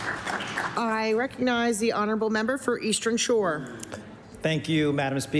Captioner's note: applause